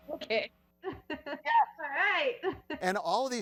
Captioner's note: chuckles; laughs